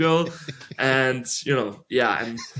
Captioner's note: laughing